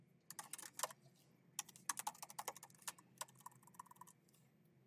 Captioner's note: keyboard clacking